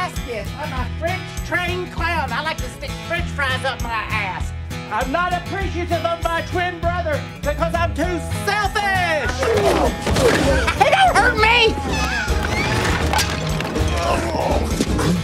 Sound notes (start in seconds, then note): 9.1 grunting sounds; 11.9 shattering sounds